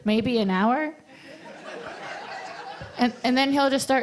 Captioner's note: audience laughter